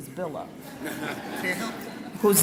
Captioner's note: laughing